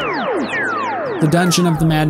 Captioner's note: laser beams